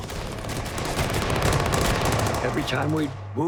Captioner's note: gunfire